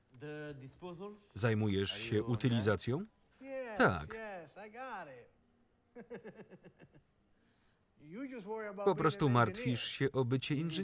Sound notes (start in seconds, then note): 5.9 chuckles